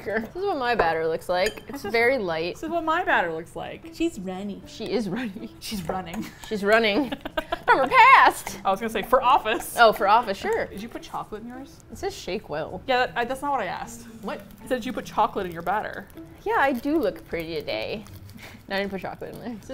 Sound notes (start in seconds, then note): 5.3 laughs; 6.9 laughs